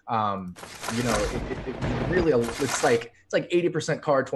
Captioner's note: thunder cracks